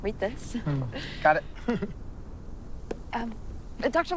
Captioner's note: chuckles